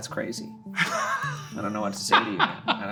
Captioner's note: laughing